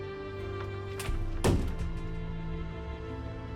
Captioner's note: door slams